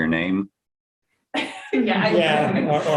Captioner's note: laughter